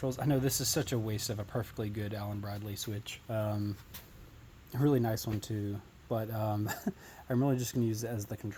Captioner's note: chuckles